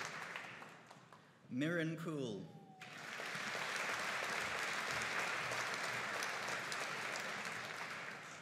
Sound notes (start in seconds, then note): 2.8 audience applauding